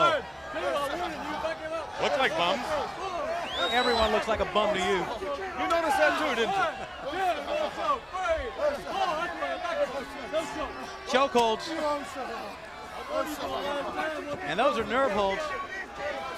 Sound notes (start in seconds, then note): 6.3 crowd chatter; 8.4 crowd chatter; 16.1 crowd chatter